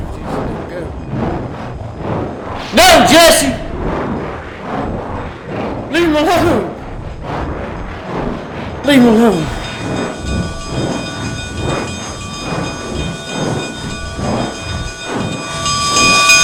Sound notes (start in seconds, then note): 11.0 bell clanging